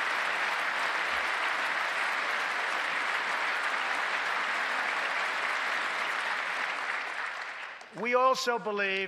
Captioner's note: applause